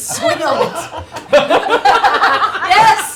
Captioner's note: laughter